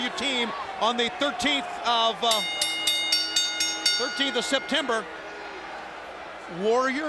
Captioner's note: bell rings